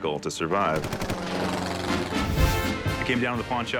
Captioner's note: airplane roars past; military music